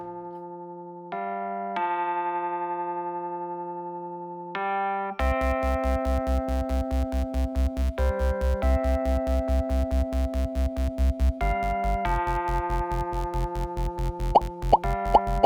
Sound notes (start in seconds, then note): 14.4 popping